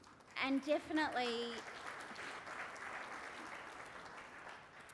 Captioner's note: applause